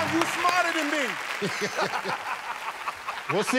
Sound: laughter

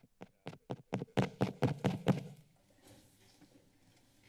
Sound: taps mic

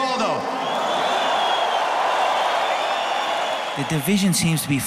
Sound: crowd cheering

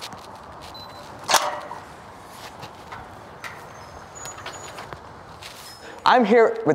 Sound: keypad beeps, door opens

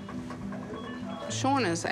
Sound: beeping

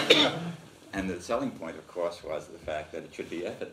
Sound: laughs

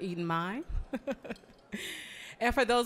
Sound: chuckling

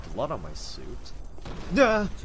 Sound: explosion

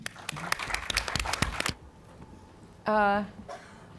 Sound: clapping

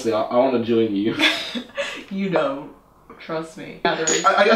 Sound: awkward laugh

